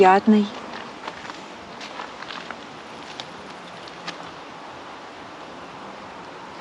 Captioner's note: silence and noise of the river